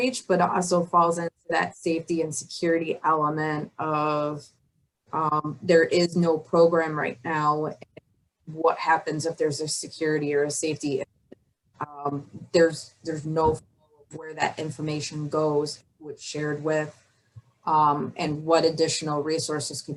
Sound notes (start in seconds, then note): 11.7 audio blurs